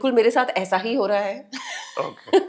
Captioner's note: laugh